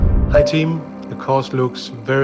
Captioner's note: electronic ding